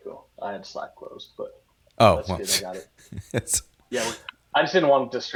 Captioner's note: laughs